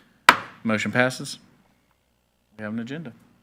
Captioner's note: gavel banging